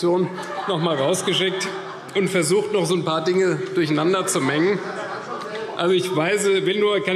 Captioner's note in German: Heiterkeit und Beifall CDU und BÜNDNIS 90/DIE GRÜNEN